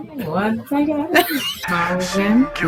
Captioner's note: begins singing; begins cackling